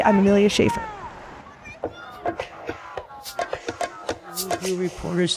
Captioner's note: crowd yelling; rhythmic music